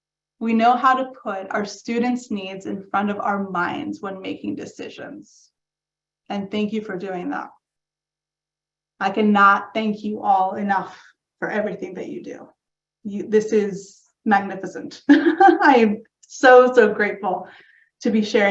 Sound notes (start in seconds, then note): 15.1 laughs